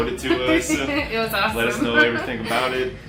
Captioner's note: laughs; laughing